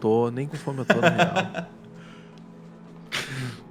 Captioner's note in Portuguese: risada